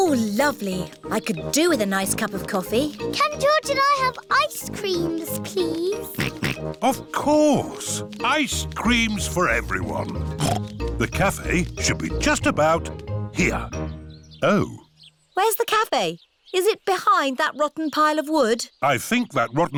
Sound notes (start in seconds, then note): 6.0 snorts; 10.2 snorts